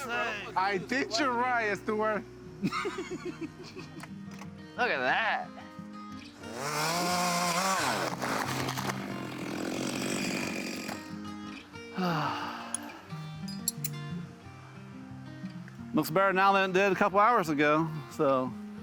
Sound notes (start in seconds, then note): 2.6 laughs; 6.4 saw buzzes; 8.7 gentle music